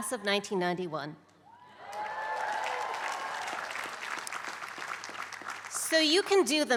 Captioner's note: applause